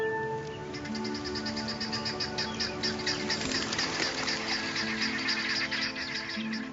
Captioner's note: birds calling and water lapping